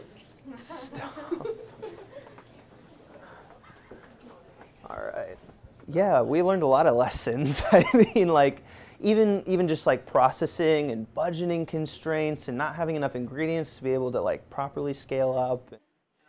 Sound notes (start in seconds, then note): 0.7 laughter; 7.4 laughs